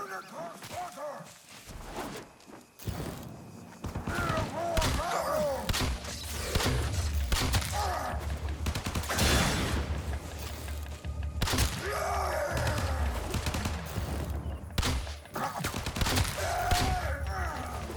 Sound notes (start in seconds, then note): 0.2 NPC shouting; 3.8 guns firing; 8.5 concussive blast